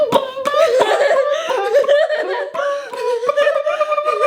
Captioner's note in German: macht alberne Geräusche